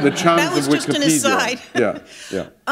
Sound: laughter

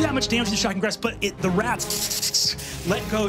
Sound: blows air

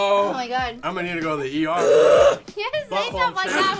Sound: painfully; groaning loudly

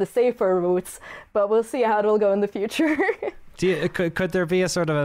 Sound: laughs

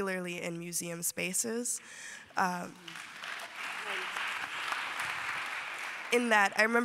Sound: applause

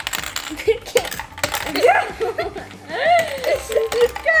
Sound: laughing

